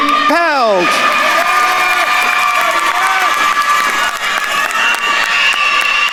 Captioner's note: attendees cheering and applauding